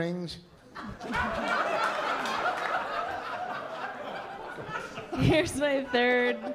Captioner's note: laughter